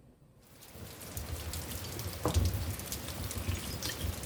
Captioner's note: rain pouring